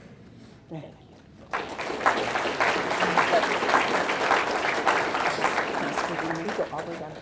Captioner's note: audience clapping